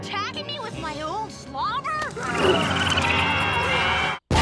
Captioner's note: squirrels chirping; screams